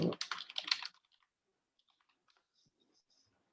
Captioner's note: keys clicking